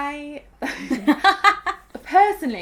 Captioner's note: both laughing